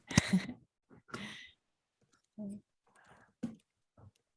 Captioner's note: laughs